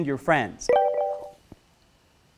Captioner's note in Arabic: هاتف خلوي يرن